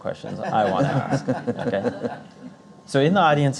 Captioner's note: Azevedo and Audience Members laughing